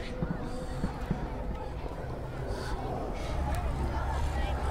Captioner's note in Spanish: Niños jugando mezclados con gruñidos de monstruos